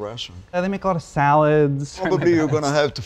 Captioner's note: laughing